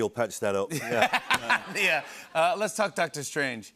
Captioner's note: laughter